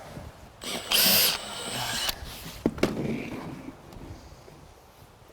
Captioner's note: drilling and hammer tapping